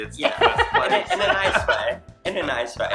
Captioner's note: laughing